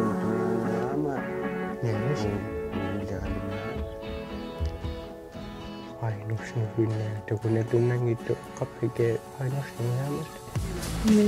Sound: speaking alternate language

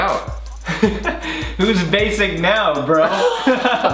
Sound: brothers laugh loudly; laughs loudly

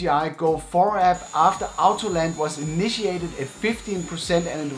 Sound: drone buzzes

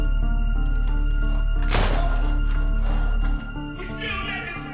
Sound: gunshots fired

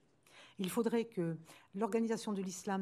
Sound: speaking french

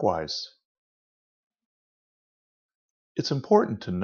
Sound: silence

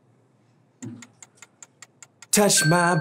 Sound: ticking

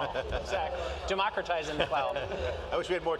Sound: laughing

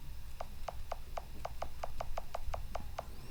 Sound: cell phone keypad touching sound

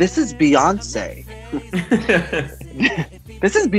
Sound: laughs

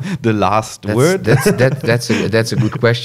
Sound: laughs

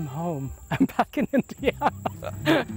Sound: laughing

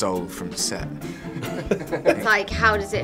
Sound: laughing

